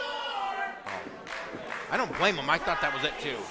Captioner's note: crowd; fans clapping